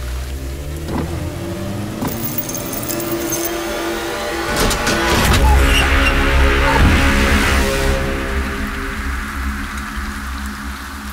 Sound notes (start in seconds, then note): 0.3 car Sound; 4.5 car Door Sound